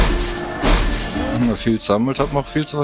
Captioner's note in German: schnauben